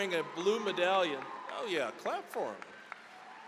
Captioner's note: applause; cheering, applause